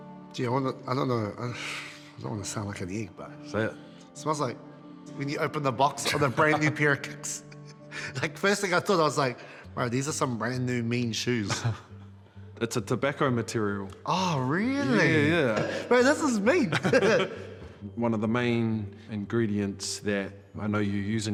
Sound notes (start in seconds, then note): 11.4 chuckles; 16.6 both chuckle